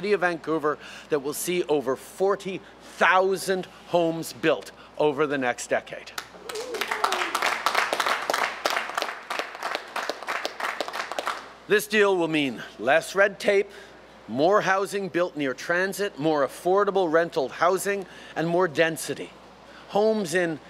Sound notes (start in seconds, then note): 8.8 applause